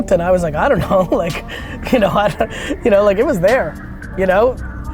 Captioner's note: laughs